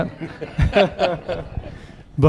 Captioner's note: laughter